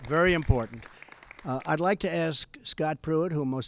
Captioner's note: applause